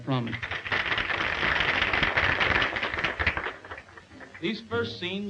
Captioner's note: audience applauding